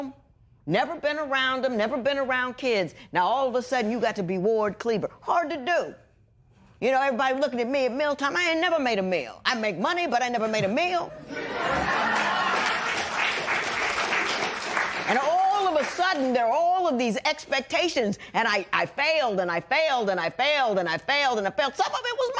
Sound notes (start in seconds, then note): 11.2 laughter; 13.6 cheers and applause